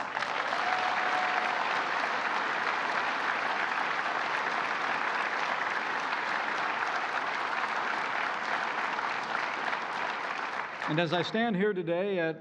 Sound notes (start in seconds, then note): 0.0 applause